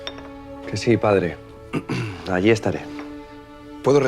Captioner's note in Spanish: carraspea